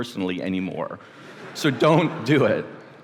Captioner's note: laughter